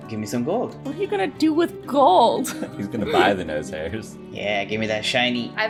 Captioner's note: laughs